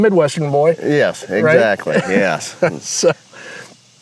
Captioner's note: laughs